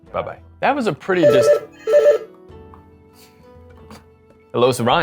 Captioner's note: phone rings